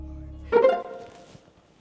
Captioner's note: ping of payment received